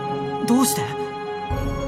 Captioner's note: whisper